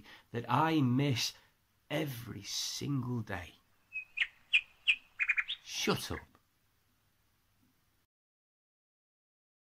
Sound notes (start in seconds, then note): 3.7 bird twitters; 6.3 bird stops